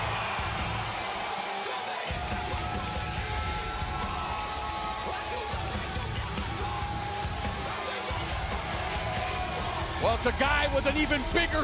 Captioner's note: crowd cheering